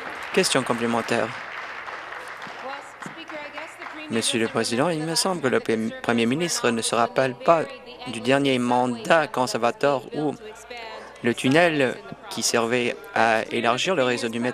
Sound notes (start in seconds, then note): 1.6 applause